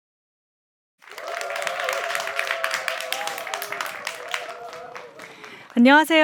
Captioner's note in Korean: 박수 소리